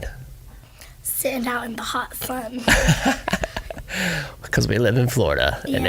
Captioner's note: laughs